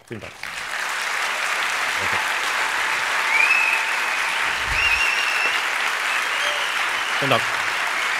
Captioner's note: applause